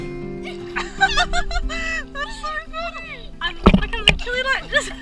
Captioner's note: laughing